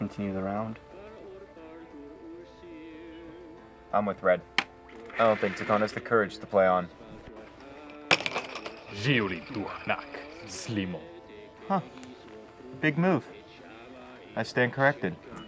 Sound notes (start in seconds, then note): 1.4 RED beeps; 8.6 Speaking Huttese